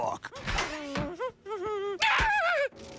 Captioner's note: screams